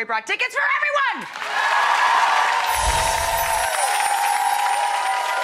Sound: audience cheering

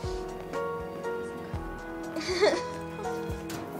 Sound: whispers; chuckles

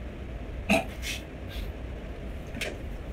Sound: chokes on hotdog

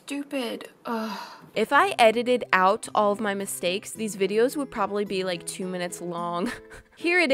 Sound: sad laugh

